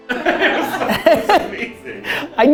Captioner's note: group laughter